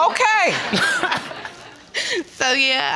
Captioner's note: both chuckles